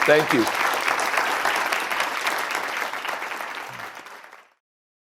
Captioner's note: audience applauding